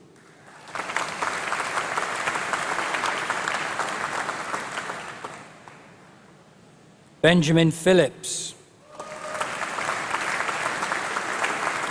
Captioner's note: applause